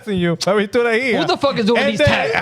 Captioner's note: speaking In Foreign Language